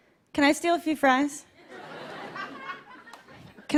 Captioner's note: light laughter